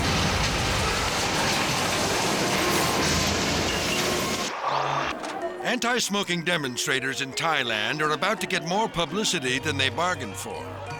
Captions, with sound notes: (dramatic music) (train crashes) (logo whooshes) Anti-Smoking demonstrators in Thailand are about to get more publicity than they bargained for.